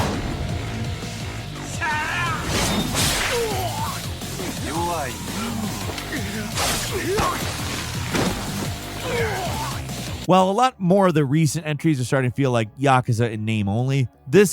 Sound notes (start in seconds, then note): 0.8 dramatic music; 4.4 characters grunting